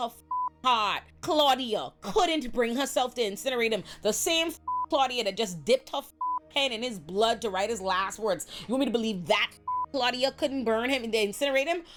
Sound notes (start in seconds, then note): 0.2 beep; 4.6 beep; 6.2 beep; 9.6 beep